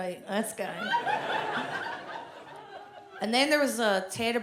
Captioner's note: audience laughs